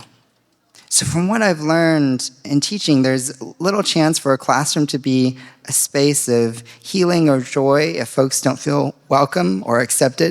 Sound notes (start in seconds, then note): none